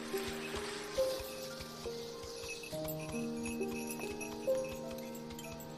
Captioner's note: sleigh bells jinglingng